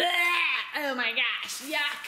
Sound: imitates vomiting

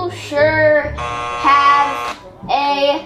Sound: buzzer buzzing

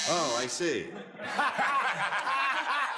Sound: buzzes; audience laughs; laughs

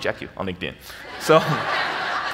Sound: audience laughs

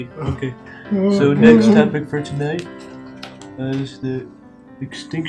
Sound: moaning

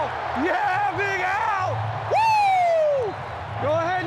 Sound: players exclaims

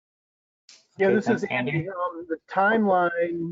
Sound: voice muffled

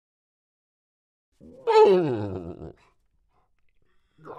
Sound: horse Neighing

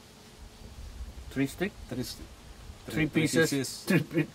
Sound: chef speaking

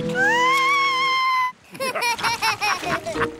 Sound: shrieks; laughter

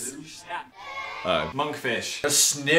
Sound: children cheering

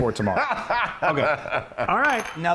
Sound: laugh

